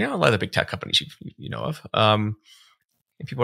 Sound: none

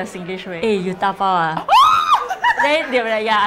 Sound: shrieks

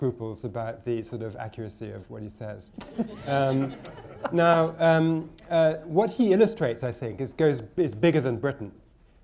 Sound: laughter

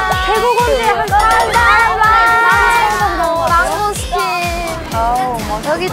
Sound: everyone gets loud and noisy with excitement

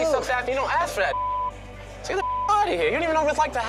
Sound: beep

